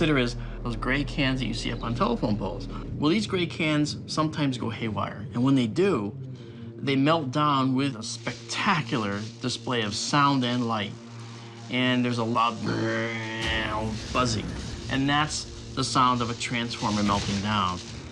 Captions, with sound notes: is those gray cans up on telephone poles. Well, these gray cans sometimes go haywire. And when they do, they melt down with a spectacular display of sound and light. And there's a loud... [makes droning noise] ...buzzing. And that's the sound of a transformer melting down.